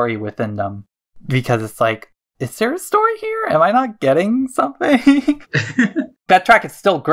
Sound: both laugh

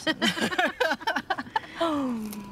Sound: both laughing

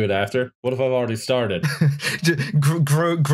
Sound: laughs

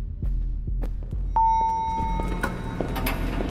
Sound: elevator bell

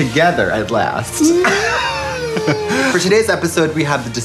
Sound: laughing

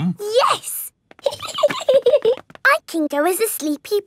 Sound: giggling

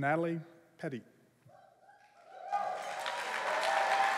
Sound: cheering

